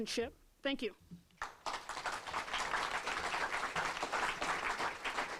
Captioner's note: applause